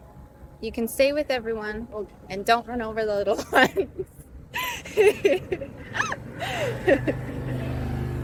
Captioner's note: laughs